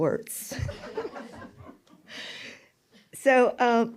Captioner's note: laughter